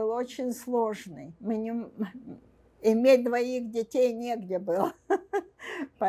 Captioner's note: laughing